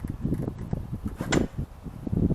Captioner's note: door opens